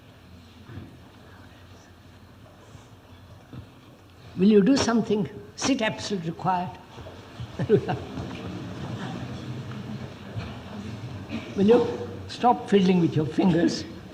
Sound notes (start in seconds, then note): 7.3 laughs